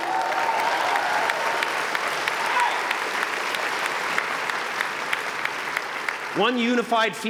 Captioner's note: applause